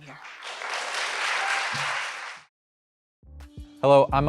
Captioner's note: audience applauds